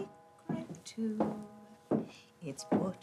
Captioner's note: shoes tapping